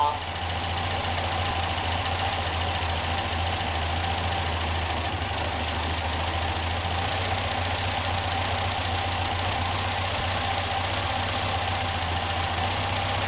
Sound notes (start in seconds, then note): 0.8 engine whirring